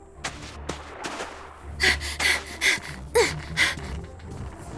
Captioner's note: panting